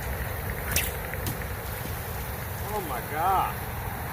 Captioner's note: sling whips; loud splash